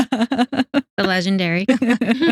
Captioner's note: both Laughing